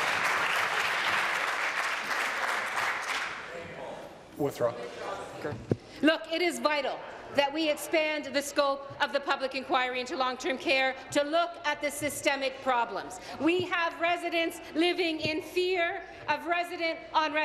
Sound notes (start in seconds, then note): 0.0 applause